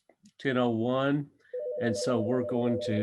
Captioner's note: phone ringing